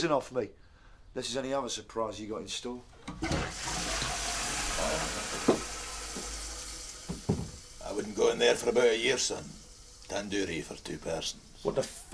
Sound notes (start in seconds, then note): 5.4 toilet flushes